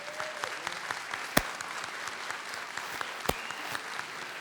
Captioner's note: audience applauds; audience cheers